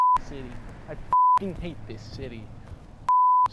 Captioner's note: beep